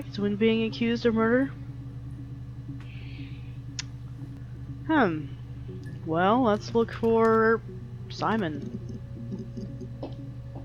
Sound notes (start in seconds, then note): 3.7 mouth click